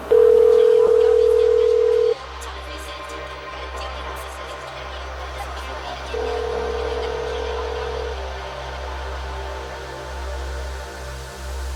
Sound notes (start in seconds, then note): 0.0 energetic music; 0.1 dial tone ringing; 2.6 vocalist faintly speaking; 6.1 energetic music; 6.2 dial tone ringing